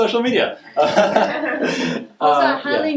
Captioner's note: laughs